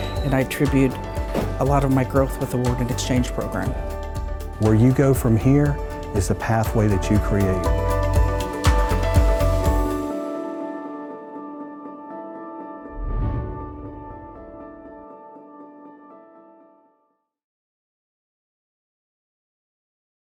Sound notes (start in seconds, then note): 7.8 upbeat music; 12.9 air whooshes; 14.6 upbeat music continues